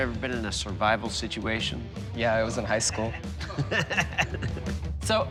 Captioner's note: laughing